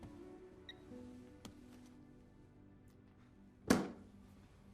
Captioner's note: phone beeping